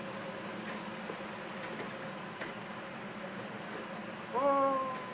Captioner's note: fire hissing; man cries out faintly